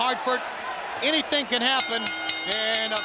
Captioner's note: bell rings